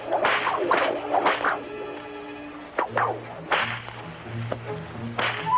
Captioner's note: whip continues cracking